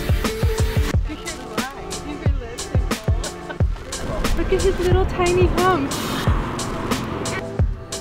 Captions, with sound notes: (background voices talking) Look at his little, tiny hump.